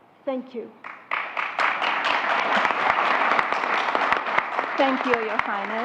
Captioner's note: applause